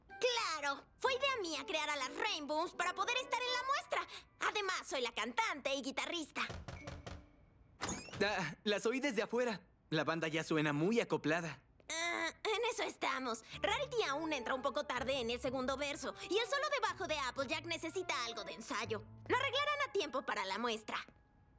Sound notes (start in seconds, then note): 6.5 knock at door; 7.7 door squeaks open